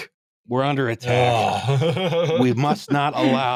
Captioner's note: laughs